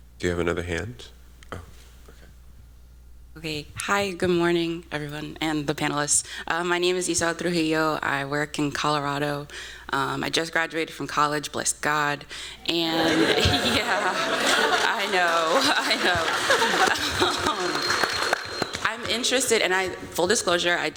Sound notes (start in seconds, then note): 13.0 applause